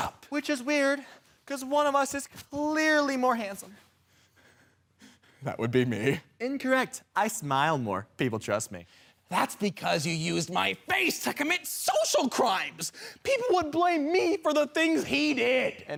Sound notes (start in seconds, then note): 3.9 heavy breathing